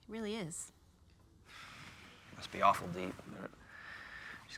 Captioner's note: sighs